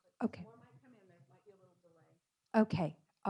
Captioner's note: speaking faintly